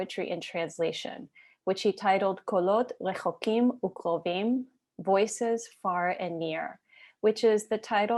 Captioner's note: Hebrew